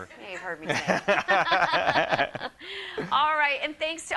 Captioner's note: laughing